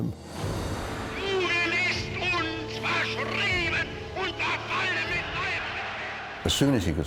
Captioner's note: Hitler speaking in foreign language